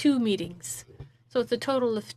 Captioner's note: speaking in French